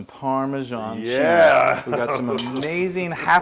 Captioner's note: laugh